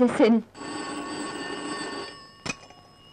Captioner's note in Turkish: Telefon zili